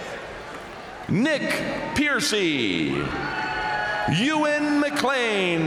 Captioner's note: crowd cheering